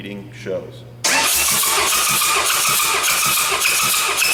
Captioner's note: engine turning